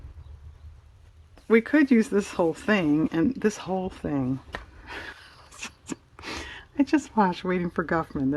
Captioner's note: laughs